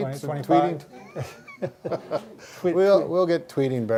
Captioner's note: both laugh